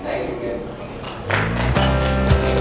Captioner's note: applause